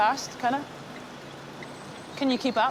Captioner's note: blinkers ticking